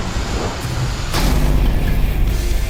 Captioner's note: loud crack